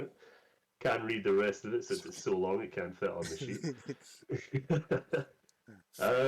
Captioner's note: chuckles